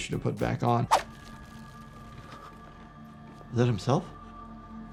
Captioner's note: screen whooshing